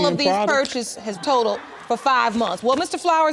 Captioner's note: audience laughing